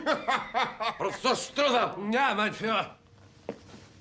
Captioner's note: chuckles